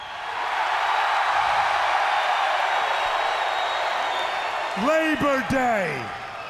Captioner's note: crowd cheering